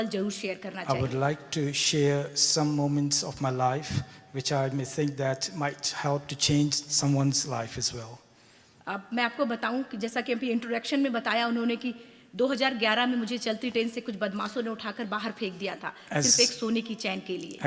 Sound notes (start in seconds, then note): 9.3 speaks foreign language